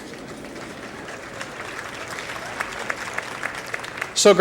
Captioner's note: applause